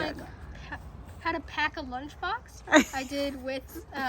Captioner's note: laughing